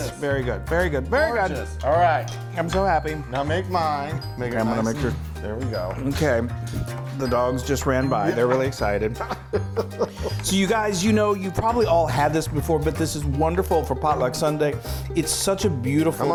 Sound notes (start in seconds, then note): 9.0 laughing